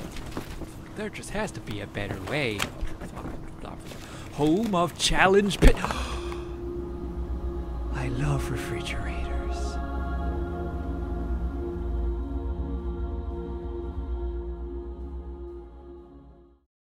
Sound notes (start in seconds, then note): 5.8 long gasp